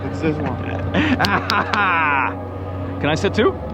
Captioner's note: laughing